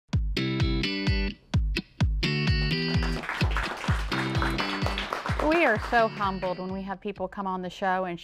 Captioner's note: applause